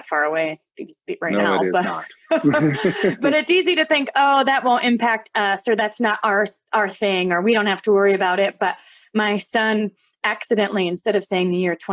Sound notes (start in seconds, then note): 1.8 laughter